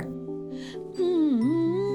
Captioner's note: humming